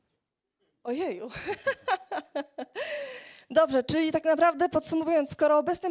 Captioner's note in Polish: śmiech